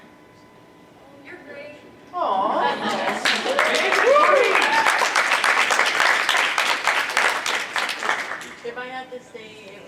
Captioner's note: applause